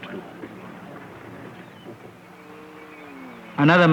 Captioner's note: truck motor at a distance